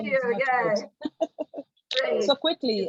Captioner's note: laughs